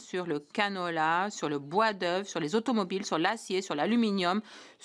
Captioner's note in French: voix de l'interprète